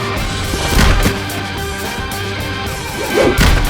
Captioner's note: energetic upbeat music continues; foot thuds